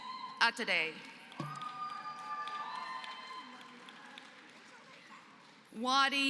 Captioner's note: applause